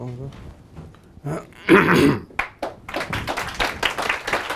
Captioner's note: clearing throat; audience applauding